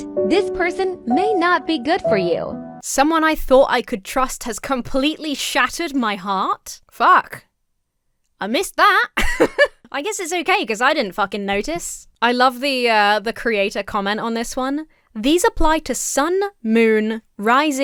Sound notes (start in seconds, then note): 9.1 laughs